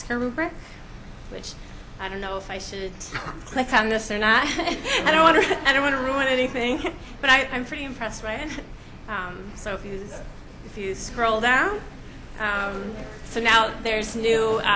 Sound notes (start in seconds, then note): 4.4 laughs